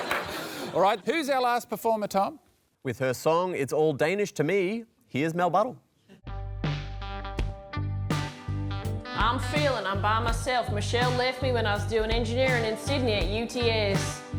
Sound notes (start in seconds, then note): 8.6 spoken with drawl, against backing music